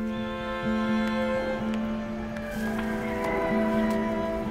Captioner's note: rooster crows